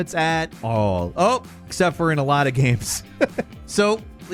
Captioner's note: laughs